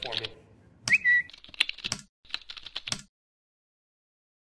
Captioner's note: bird chirping